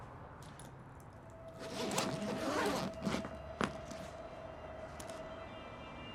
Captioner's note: zipper unzipping; dramatic music